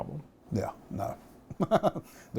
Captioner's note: laughter